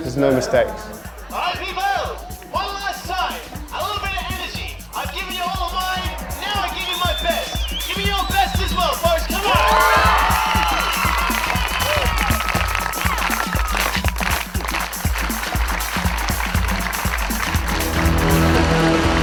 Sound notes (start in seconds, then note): 10.3 audience cheering and applauding; 13.0 thrilling music